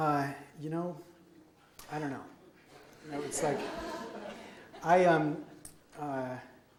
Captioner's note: audience laughs